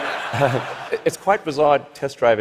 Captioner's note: laughter